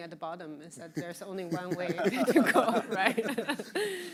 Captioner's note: all laughing